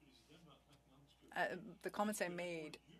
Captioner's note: speaking French